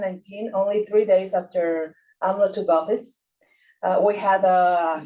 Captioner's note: faintly speaking